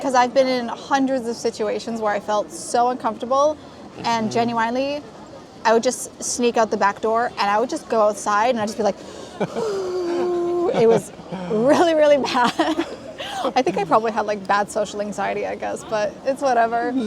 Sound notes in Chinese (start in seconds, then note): 9.0 呼~; 9.3 ooh~